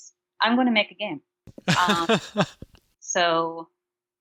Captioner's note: laughing